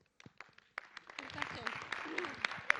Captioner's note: audience clapping